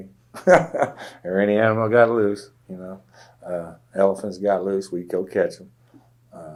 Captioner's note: laughs